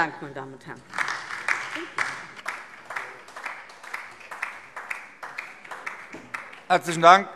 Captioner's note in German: Beifall DIE LINKE